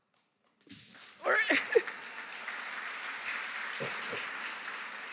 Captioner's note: applause